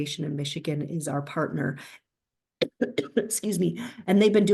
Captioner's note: coughs